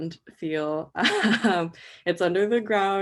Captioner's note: laughs